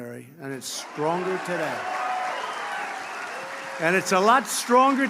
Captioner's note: applause